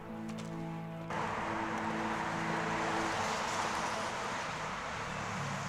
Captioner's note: traffic whooshing